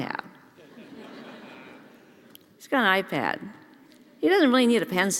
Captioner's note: laugh